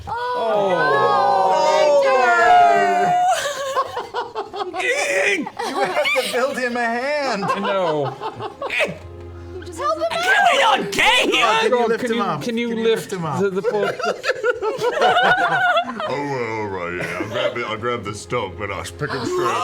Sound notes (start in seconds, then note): 0.1 sounds of dismay; 4.8 grunts; 8.6 grunts